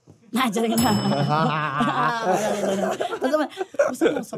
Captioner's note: both chuckling